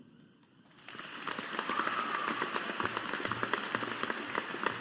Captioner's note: audience applauding